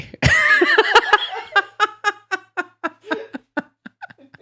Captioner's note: laughs